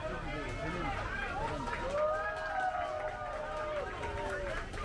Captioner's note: people cheering